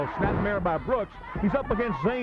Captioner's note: body thudding